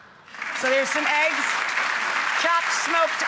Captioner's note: audience applauding